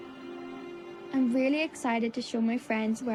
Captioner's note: voice-over